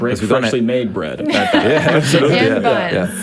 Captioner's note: all laugh